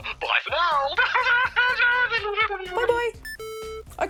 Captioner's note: chuckles